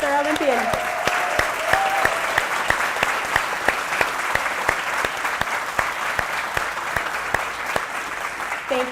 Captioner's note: applause